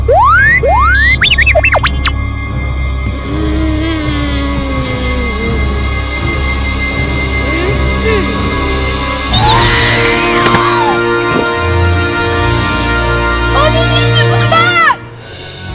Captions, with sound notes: (excited beeps) (moans) (electronic screeches) - Oh no! R2, come back!